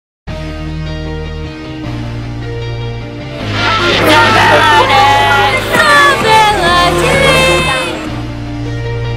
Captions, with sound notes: (Crowd cheering.) Civility. Civility.